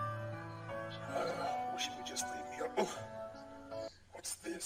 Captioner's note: groans